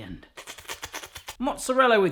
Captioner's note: slurping